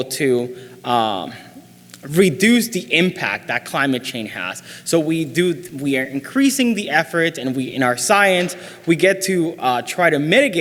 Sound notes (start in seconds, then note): none